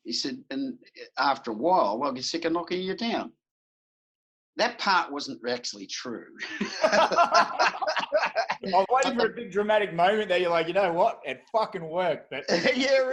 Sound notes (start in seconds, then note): 6.4 both laughing